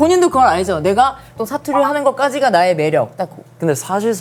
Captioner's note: satoori